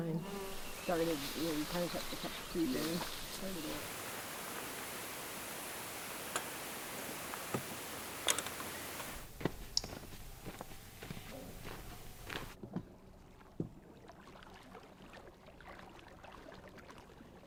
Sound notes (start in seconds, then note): 0.2 sounds of insects and birds chirping at dusk; 9.4 footsteps on the beach; 12.5 sound of the canoe going into the water